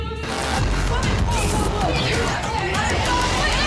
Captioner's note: fighting & yelling